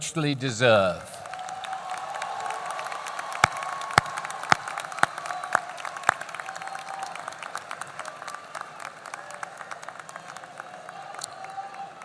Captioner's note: applause